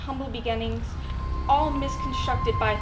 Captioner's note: realization effect plays